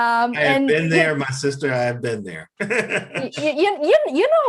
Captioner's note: laughs